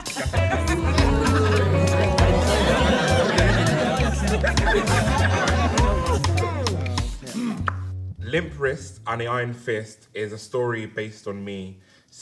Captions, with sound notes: (upbeat music) (Housemates laughing) - "Limp Wrist & The Iron Fist" is a story based on me.